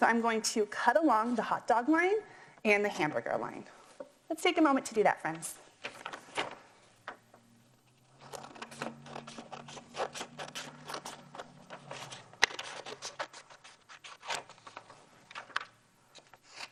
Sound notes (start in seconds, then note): 8.5 cutting